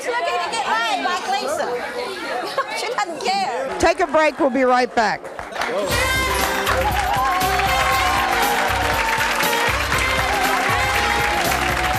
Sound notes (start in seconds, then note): 0.0 audience chattering; 5.6 cheering; 5.8 upbeat music